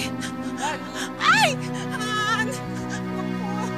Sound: sobs

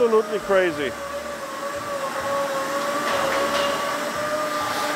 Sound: machinery whirring

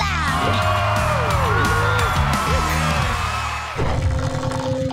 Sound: cheering

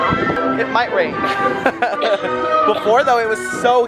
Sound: laughs

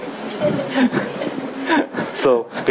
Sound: audience laughing

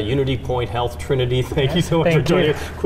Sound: laughing

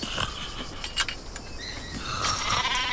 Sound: man yelling in foreign language; metal clanking; sheep crying

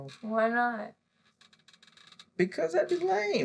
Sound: chair squeaks

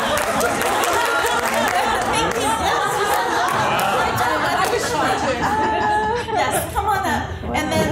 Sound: laughter

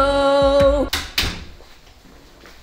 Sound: music stops abruptly as door closes

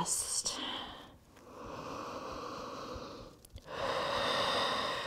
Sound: deep breathing

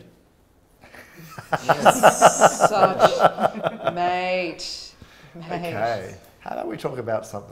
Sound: laughs in Australian

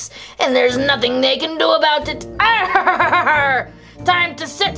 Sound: laughs

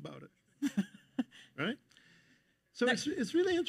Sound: chuckles

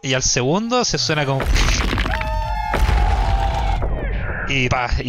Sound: crack!

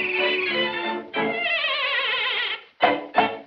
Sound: neighs

